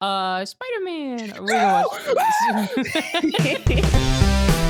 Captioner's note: both laugh